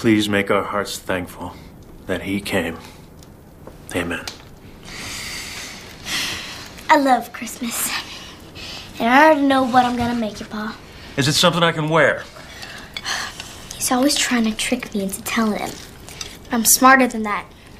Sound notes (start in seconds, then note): 12.4 sighs